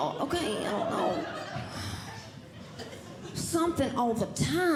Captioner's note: audience Laughing